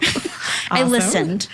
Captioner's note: chuckles